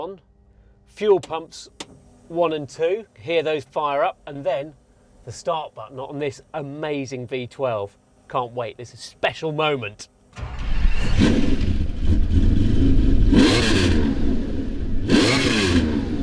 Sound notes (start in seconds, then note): 10.4 car revs